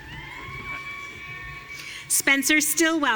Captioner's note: audience cheering